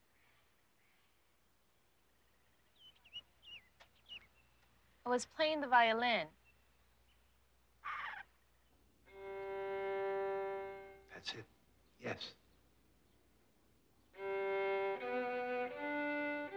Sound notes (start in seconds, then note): 7.2 Freckles cooing; 14.1 violin music